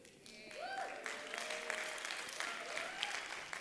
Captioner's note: applause